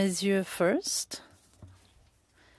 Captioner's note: speaking French